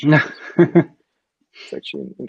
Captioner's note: laughing